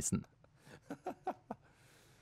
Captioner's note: laughs